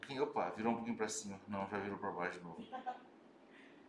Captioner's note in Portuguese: risos